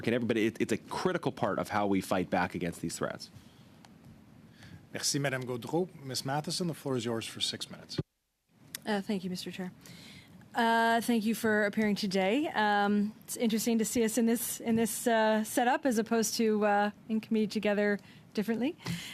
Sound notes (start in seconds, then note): 9.3 speaking French